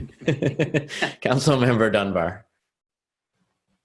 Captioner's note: chuckling